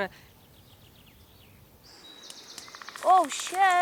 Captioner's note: woodpecker's knock